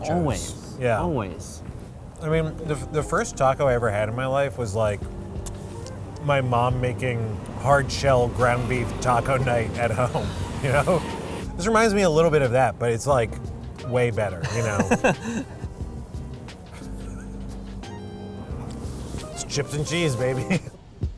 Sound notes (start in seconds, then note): 14.4 laughs